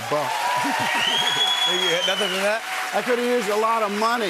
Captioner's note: cheers and applause